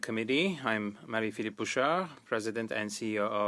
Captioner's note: speaking French